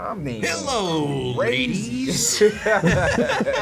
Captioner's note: everyone laughs